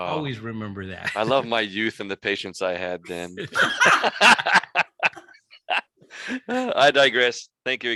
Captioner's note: laughter